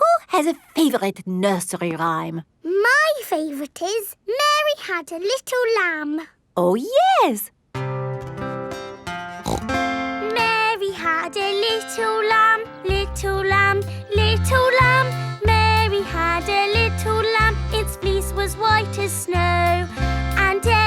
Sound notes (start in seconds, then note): 7.9 playing guitar; 9.3 snorts